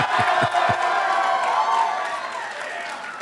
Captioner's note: applause